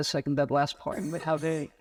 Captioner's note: audience member coughing